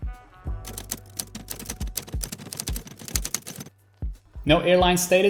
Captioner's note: keys clacking